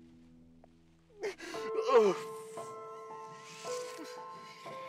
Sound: husband sobbing

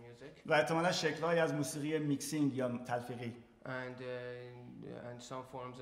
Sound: speaking in farsi

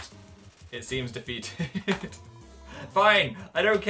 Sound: laughs

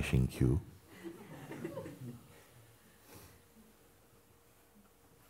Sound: laughter

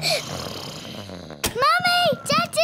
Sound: both giggling; snoring

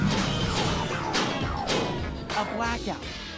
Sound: powering down

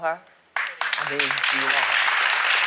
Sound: applause

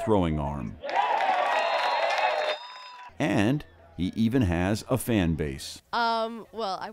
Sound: cheers and applause

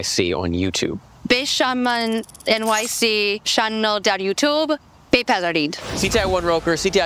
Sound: speaking in farsi

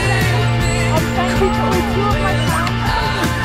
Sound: yelling

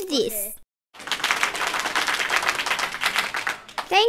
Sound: clapping

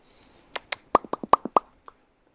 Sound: clicks and pops

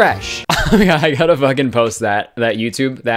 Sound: laughing

